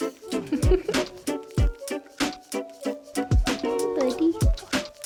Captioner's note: laughs